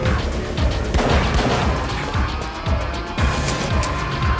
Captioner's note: suspenseful music; pistol firing; pistol clicking